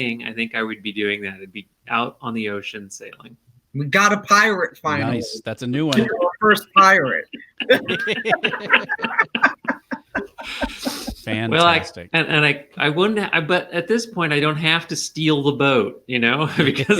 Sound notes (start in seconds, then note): 7.2 laughing